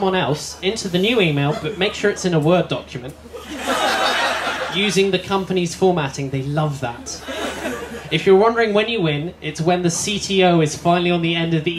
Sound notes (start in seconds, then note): 3.3 laughter